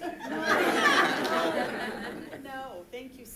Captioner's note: choir laughing